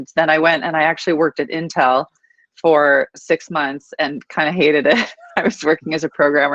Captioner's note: laughing